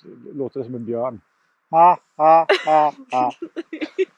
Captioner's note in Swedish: konstlat skratt